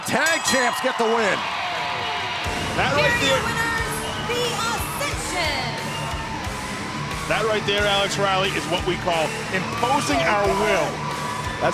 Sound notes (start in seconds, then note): 2.4 bell ringing